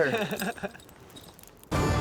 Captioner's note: laughter